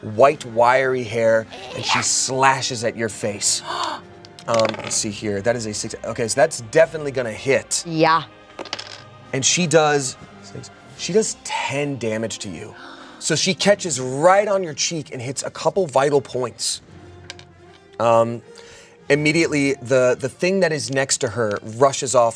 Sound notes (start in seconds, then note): 3.6 gasps